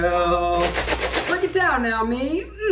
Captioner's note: bag rustles